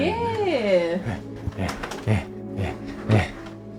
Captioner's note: panting